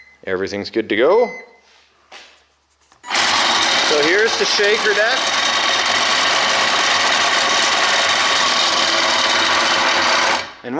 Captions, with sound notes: Everything's good to go. (rattling) So here's the shaker deck. (rattling)